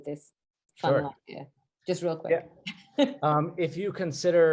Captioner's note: laughs